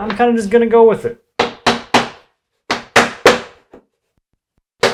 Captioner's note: hammer pounding